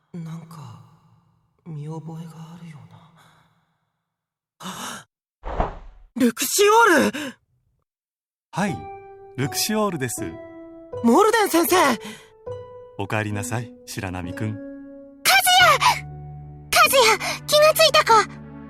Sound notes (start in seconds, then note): 4.6 gasp